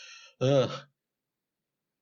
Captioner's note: short sigh